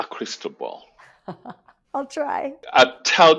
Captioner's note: laughs